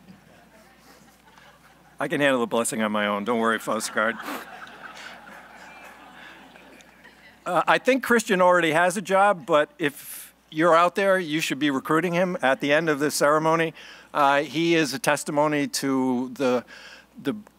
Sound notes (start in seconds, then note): 6.7 laughing